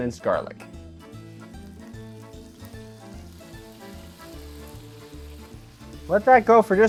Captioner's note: sizzling